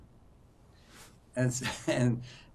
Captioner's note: laughing